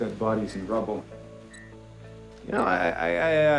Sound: wand beeps

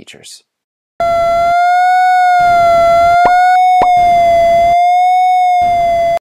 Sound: whistling and popping

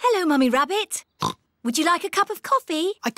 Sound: oinks

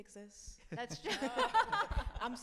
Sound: laughs

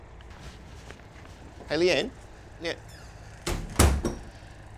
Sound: door closes

